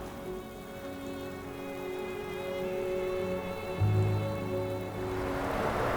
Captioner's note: rain pattering on the ground; vehicle whirring past